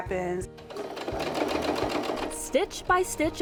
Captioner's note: sewing machine whirring